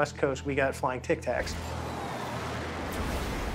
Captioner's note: whooshing